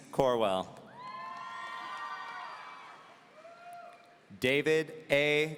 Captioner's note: audience cheering